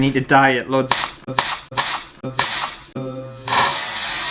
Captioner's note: crack